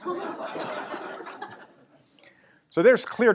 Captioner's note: laughter